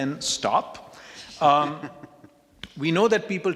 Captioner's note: male laughing